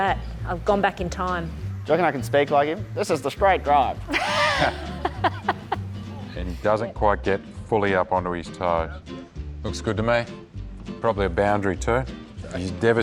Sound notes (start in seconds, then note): 4.1 laughs